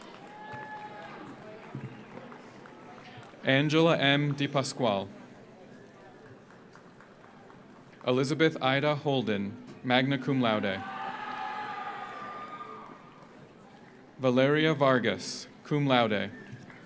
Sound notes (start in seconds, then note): 0.0 audience cheers; 0.0 audience applauds; 6.2 audience applauds; 10.6 audience cheers; 11.0 audience applauds; 16.6 audience applauds